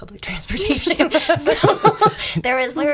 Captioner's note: laughing